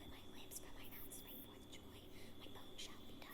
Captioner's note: whispers